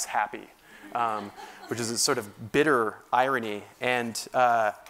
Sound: laugh

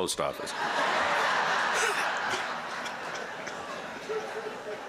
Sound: laughter

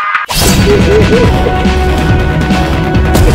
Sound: spirit's laughing

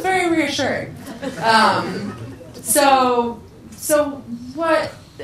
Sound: people laugh

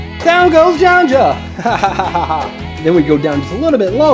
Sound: laughs

